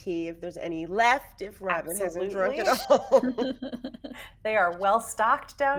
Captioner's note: person chuckling